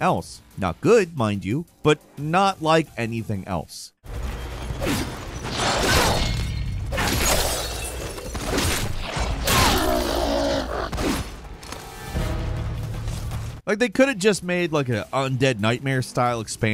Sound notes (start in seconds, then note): 6.0 crystal smashing; 9.4 zombie groaning; 11.9 suspenseful music